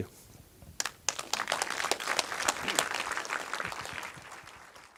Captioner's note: audience applause